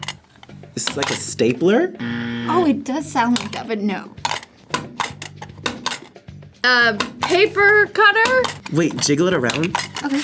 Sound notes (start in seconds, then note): 2.0 buzzer; 4.2 game clicks